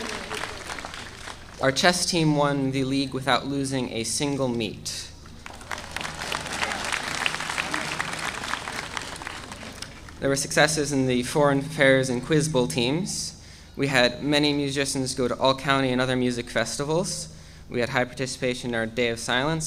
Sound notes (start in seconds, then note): 5.3 audience applauding